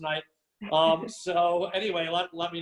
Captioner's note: laugh